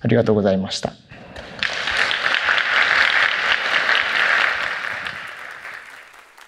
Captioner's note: applause